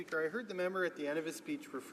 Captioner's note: speaking French